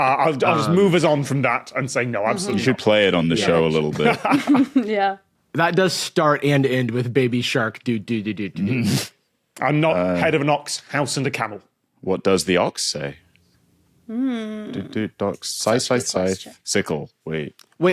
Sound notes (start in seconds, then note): 3.9 laughs; 3.9 snickers